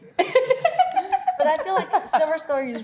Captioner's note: laughing